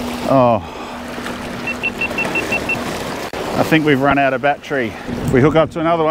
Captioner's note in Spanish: GoPro emite un pitido